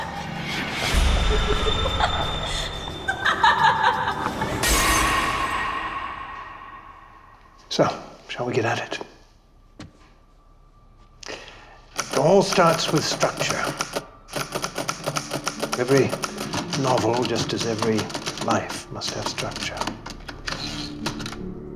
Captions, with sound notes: (Paige laughing) (glass shatters) So, shall we get at it? It all starts with structure. (typewriter clacking) Every novel, just as every life, must have structure.